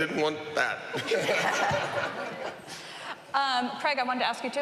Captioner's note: laughing